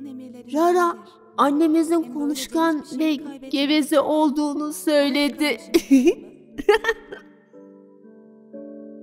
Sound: laughing

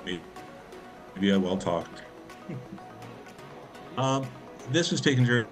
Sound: chuckling

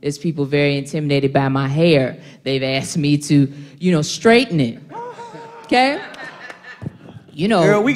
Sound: laughter

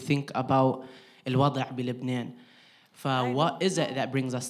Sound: speaking in foreign language

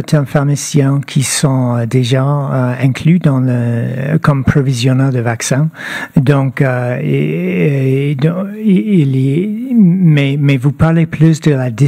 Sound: speaking French

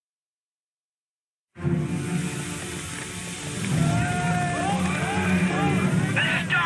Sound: running

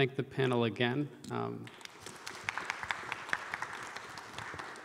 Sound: audience claps

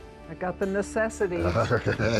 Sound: laughs

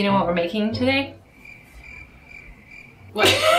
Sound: crickets chirp

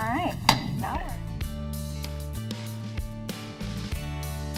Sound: gavel bangs

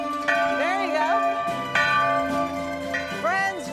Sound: bell tolling

